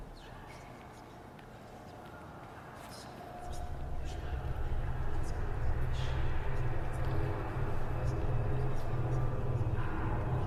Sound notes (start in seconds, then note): 3.6 voices echo